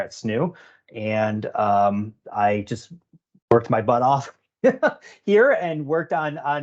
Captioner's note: laughing